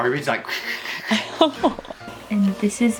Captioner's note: laughing